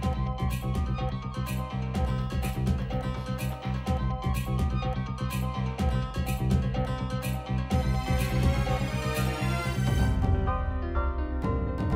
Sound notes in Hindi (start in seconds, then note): none